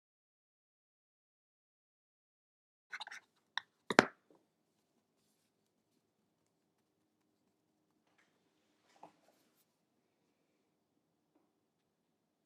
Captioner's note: silence